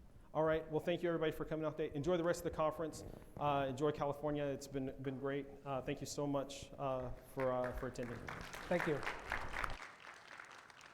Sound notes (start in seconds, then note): 9.1 audience applauds